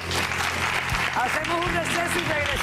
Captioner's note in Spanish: aplausos